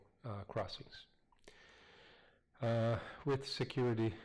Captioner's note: pause